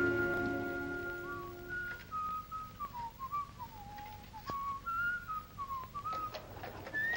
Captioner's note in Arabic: الرجل يصفر; يصفر الرجل; حوافر الخيول تمر